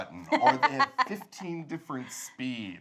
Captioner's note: laughs